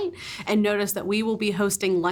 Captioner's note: none